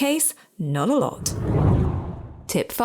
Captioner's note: air whooshing